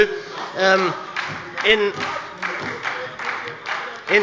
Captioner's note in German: Beifall bei der SPD